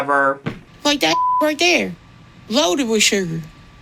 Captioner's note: beep